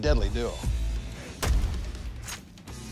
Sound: boom

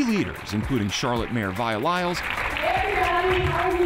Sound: crowd applauding

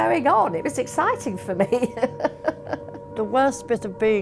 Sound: laughing

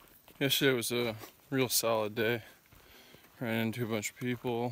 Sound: none

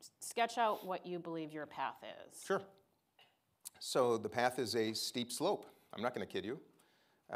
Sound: none

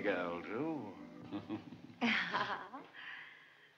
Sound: giggles

